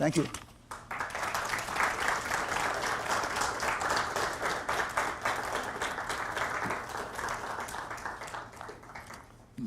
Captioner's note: audience applause